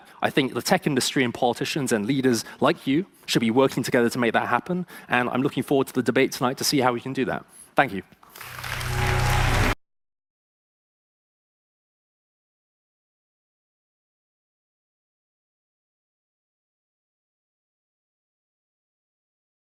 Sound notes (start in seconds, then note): 8.3 audience applause